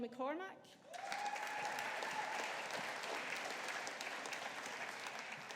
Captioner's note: audience applauding